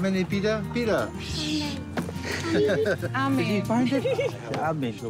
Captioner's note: laughs